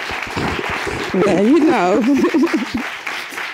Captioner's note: sobbing